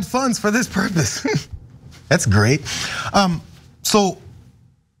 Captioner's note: laugh